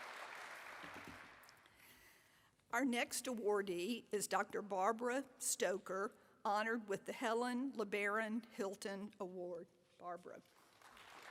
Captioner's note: applause